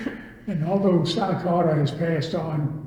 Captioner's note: all laugh